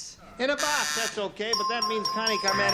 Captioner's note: pinging